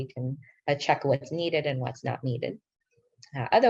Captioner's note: speaking in foreign language